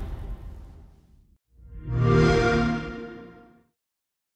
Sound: xbox sound

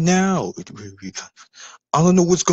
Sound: chatting

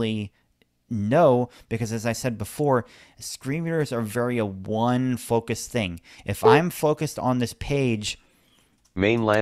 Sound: beep sound

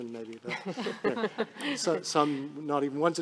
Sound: people laughing

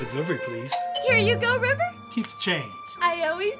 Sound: doorbell chimes

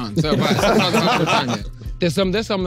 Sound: everyone laughing

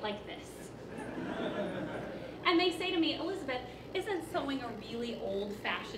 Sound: laughing

